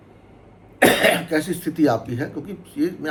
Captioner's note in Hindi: गला साफ़ करने की आवाज़; खांसने की आवाज़